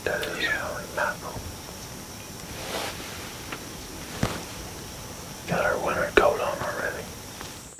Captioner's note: whispering